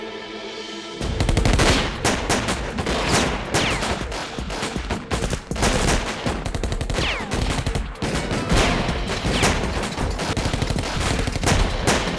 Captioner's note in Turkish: si̇lah sesleri̇